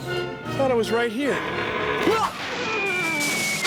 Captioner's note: creaking